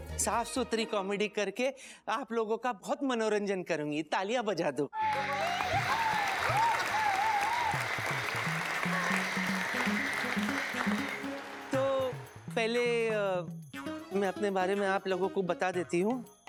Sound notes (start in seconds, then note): 5.0 applause and cheer